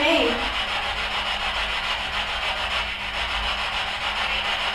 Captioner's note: static buzzing